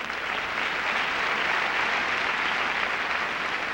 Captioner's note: applause